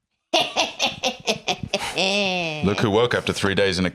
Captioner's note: cackles